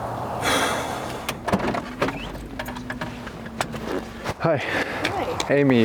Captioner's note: passenger sighing